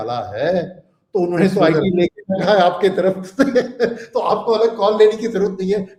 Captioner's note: laughter